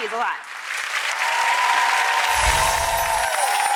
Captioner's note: crowd cheers